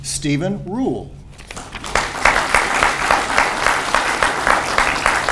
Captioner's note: audience applauds